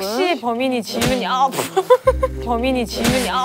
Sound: slapped

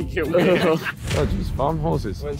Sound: all laughing

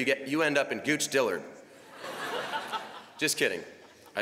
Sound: laughter

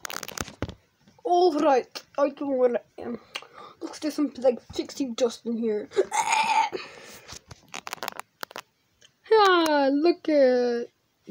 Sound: dying noises

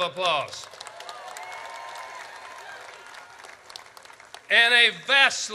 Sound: audience cheers

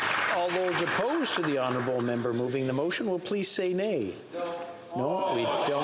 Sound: some Applause

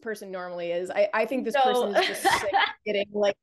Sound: laughs

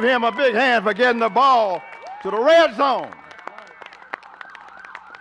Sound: cheers and applause

